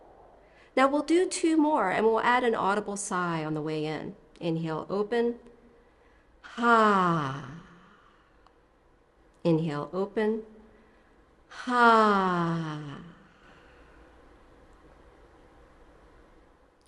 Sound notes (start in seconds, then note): 7.6 sighs; 12.8 sighs